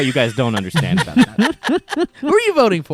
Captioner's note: guys laughing